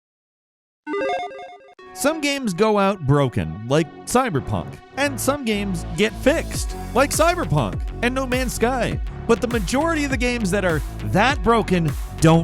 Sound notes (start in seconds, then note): 1.0 electronic jingling